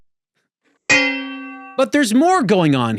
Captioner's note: thuds